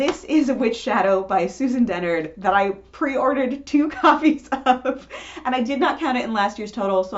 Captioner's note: laughing